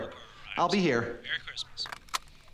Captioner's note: on phone